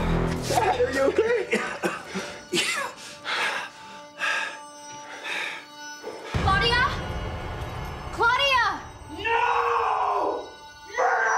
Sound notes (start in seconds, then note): 0.4 coughs; 4.4 heavy breathing